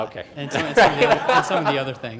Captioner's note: laughs